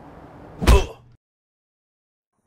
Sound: ough

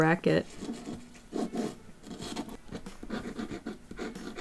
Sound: pencil scratching on the paper

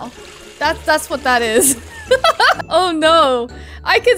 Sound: laughs

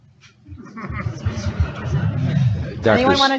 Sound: audience laughing

